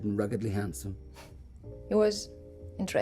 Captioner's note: scoffing